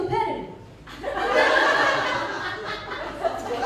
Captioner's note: laughter